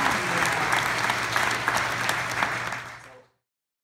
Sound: applause

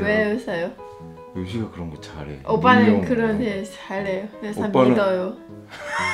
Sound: laughing

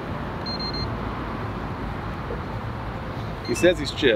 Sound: beeps

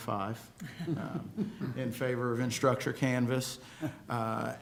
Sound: laughter

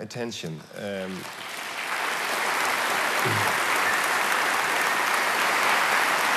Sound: applause

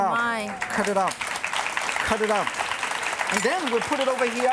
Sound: audience applause

